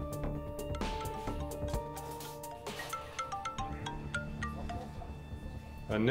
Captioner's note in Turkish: Telefon Çalıyor